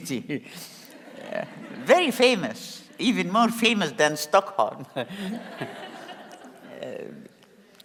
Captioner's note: laugh; laugh